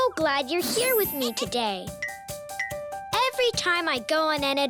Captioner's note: tinkling